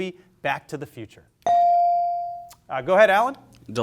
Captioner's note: bell sounding